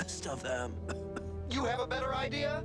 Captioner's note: coughs